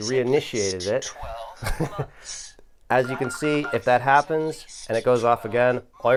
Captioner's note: laughs